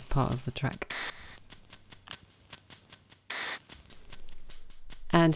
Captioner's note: rhythmic sounds of matches, lighters and the gas stove